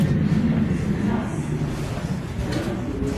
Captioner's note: aircraft engine